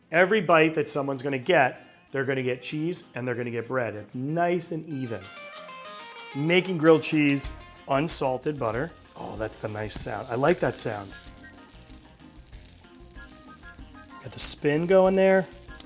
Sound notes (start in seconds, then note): 11.3 butter sizzles